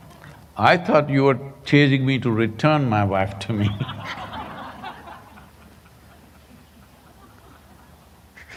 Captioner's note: laughter